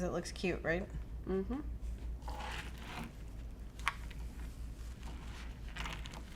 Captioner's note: hums in agreement